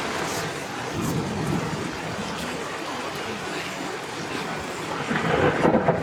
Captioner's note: loud thunder and heavy rain continues